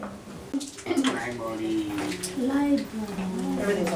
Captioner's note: voiceover